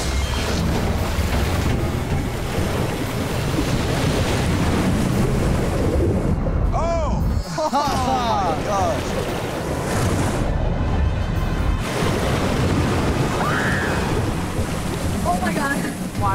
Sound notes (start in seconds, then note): 0.2 dramatic music; 0.2 water rushing; 10.1 water splashing; 13.4 shrieking